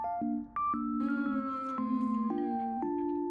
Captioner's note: crying No